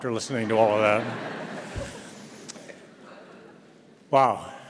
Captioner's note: audience laughs